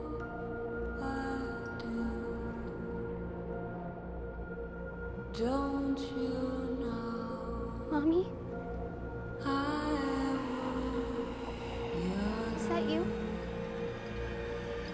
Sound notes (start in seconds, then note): 9.4 faint groans and whispers